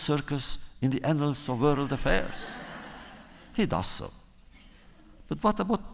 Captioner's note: laughter